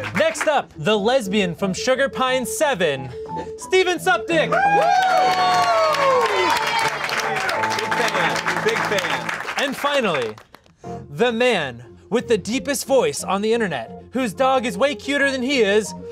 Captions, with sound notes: Next up, the lesbian from SugarPine7 Steven Suptic! *More cheering and clapping* And finally! The man with the deepest voice on the internet, whose dog is way cuter than he is.